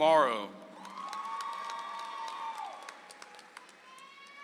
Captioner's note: audience applauds